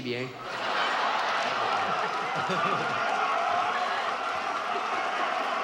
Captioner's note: audience laughs and applauds